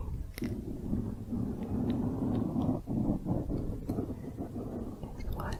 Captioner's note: mic scratching